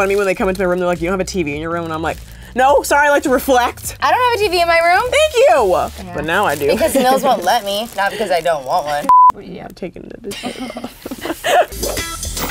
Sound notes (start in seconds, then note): 9.0 beep; 10.3 laughing